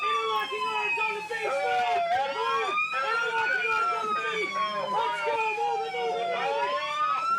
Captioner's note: instructors yelling